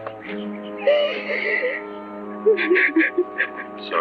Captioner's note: sobbing